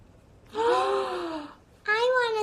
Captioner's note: gasps